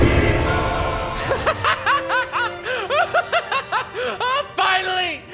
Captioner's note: laughs maniacally